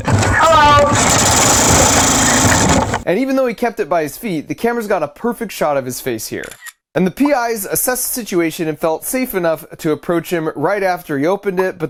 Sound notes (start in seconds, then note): 0.4 machine shooting noise; 6.4 camera shutter